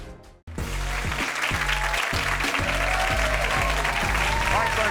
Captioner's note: upbeat music; audience cheering